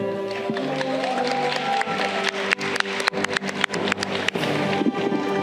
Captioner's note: audience cheering